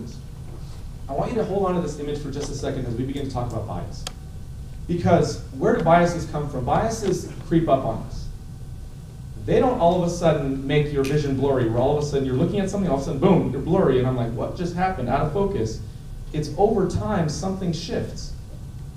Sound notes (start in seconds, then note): none